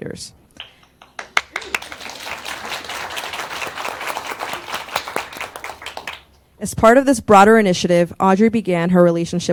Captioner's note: applause